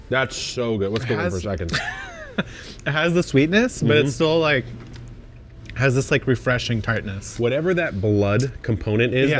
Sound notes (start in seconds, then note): 1.6 chuckles